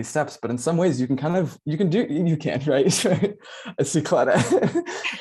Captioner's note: laugh